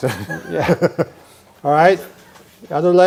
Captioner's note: both giggling